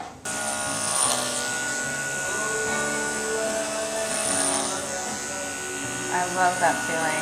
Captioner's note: buzzing sounds